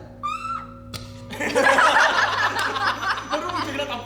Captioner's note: everyone laughs